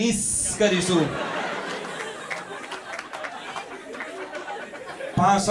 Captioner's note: audience echoes the hissing